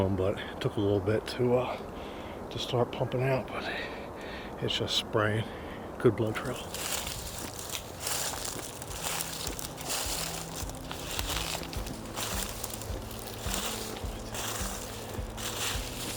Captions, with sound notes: but it took a little bit to start pumping out, but it's just sprayin'. Good blood trail. (leaves crunching)